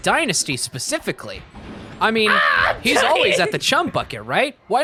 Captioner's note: screaming